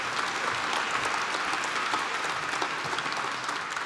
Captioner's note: applause